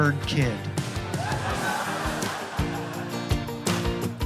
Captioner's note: laughter; upbeat music